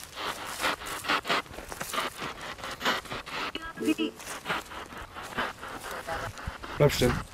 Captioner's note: radio noise from the spirit box